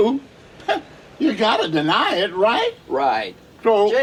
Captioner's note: laughs